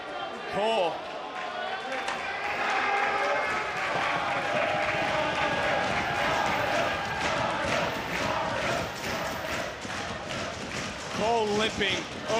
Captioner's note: audience cheering